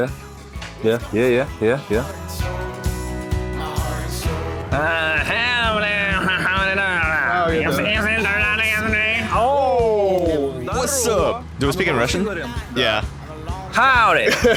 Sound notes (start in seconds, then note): 7.5 weird-ass grunt; 10.4 probably imitating Southern US accent?